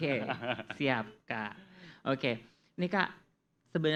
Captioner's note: laugh